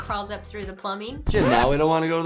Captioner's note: record scratching